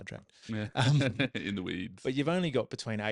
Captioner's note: laughing